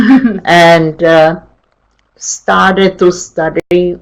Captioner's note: chuckles